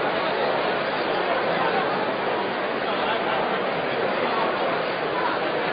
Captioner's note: random conversation